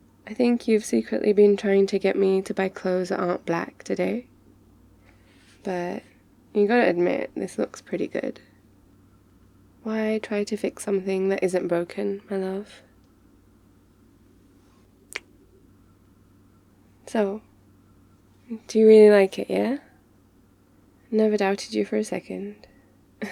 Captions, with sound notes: I think you've been secretly been trying to get me to buy clothes that aren't black today but you gotta admit, this looks pretty good? why try to fix something that isn't broken, my love? *kiss* so, do you really like it yeah? never doubted you for a second